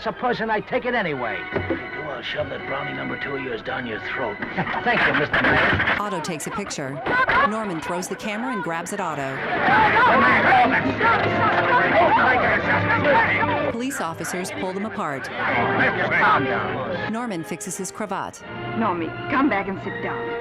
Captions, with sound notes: Well, supposing I take it anyway? I'll shove that Brownie Number 2 of yours down your throat. Thank you, Mr. Maine. Norman, stop it! [audience shouting indistinctly] Norman, stop it! [audience shouting indistinctly] Take it easy, Mr. Maine. -Take your hands off me. -Calm down. Norman, come back and sit down.